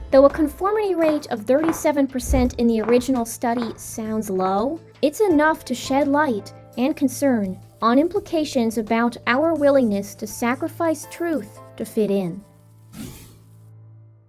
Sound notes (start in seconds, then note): 12.5 blows out candle